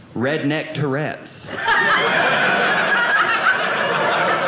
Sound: audience laughing

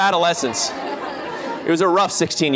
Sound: laughter

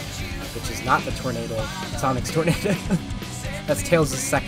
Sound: laugh

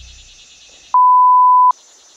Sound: beeping sound

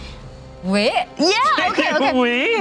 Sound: speaks in foreign language

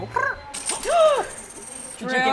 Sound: coins rattling

